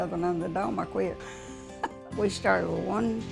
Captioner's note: chuckling